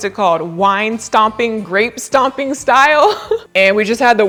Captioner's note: chuckles